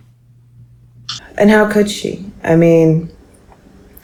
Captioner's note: sighs